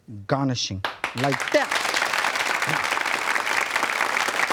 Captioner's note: crowd applauds